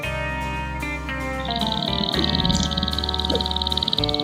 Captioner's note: grouse stomping sound